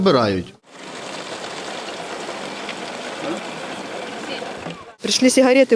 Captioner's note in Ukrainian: працює двигун